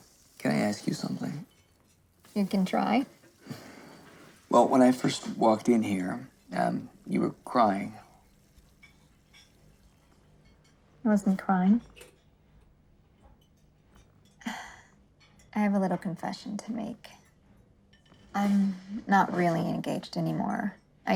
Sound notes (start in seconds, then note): 14.1 sigh